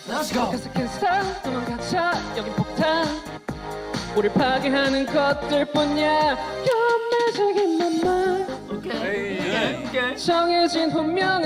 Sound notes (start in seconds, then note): 6.6 vocal cord switching